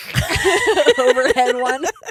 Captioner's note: laughing